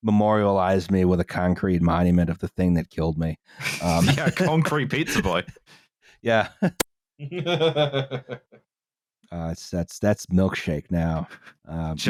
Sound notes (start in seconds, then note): 3.6 laughter; 7.2 evil, but tired, laugh